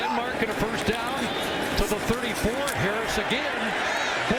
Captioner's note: applause